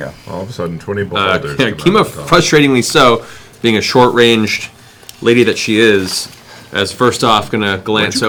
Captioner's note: chuckles